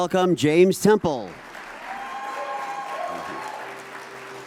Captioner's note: audience applauds